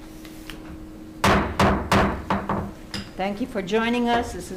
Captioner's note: gavel banging